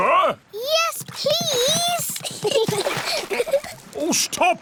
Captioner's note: giggles